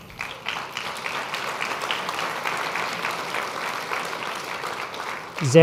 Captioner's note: applause